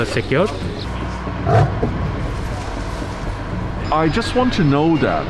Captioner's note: lion grunts